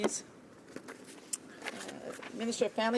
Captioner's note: speaking in french